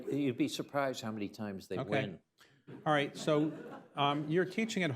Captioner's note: laughter